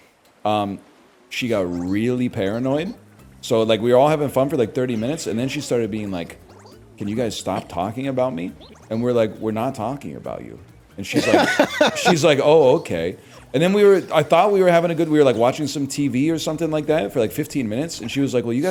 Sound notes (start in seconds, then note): 11.1 laughs